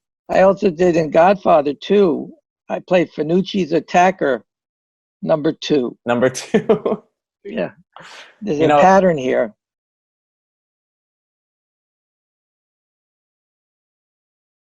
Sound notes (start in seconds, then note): 6.2 chuckling